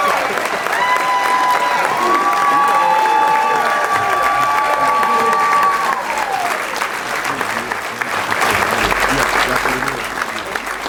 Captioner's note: applause